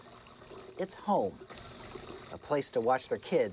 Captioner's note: water sloshing